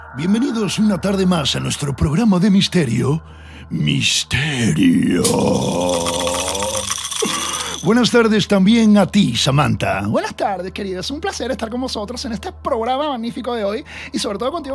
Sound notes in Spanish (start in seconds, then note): 9.8 con voz femenina